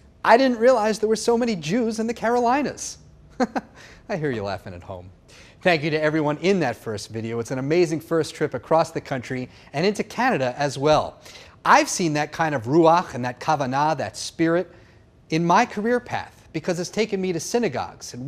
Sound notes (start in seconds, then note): 3.3 laughing